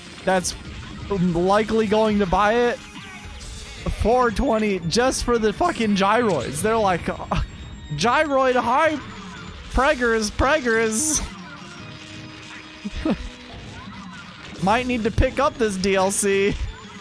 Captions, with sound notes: that's *stutter* likely going to buy it For 20, just for the fuckin gyroids. They're like... gyroid hype! Preggers! Pregerrs! *tiny chuckle* Might need to pick up this DLC